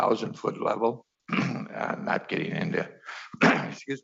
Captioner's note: clears throat